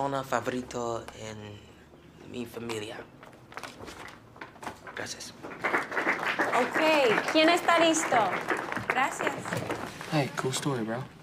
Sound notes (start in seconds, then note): 6.1 teacher speaking spanish